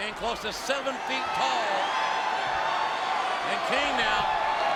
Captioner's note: audience cheering